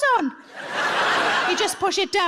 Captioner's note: audience laughs